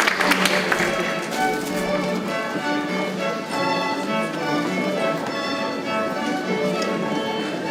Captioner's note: bright orchestral music; people chattering